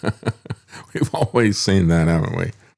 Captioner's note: laughs